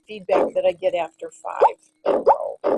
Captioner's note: bleating and snorting